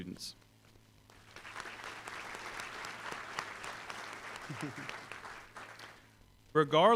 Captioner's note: applause